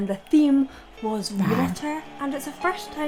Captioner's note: fish roars; tender music